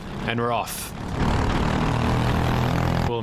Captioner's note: engine revving